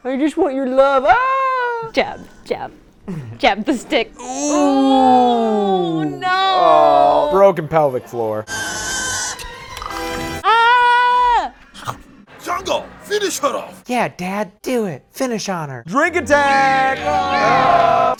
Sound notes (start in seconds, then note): 8.5 Acklay screaming; 11.2 chomp noise